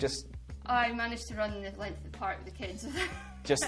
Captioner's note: laughs